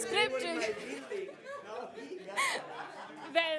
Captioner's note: chatter